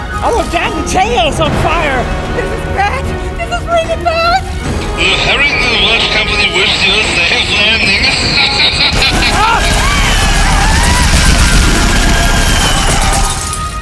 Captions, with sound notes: Our damn tail's on fire! Ahh... this is really bad… The Harrington & Welsh company wishes you a safe landing! *laugh* [gunshots]